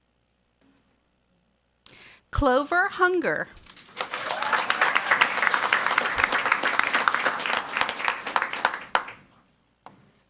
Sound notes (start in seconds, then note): 3.5 crowd cheering and clapping